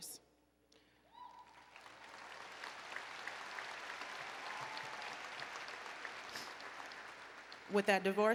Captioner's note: applause